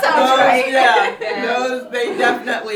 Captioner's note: laughter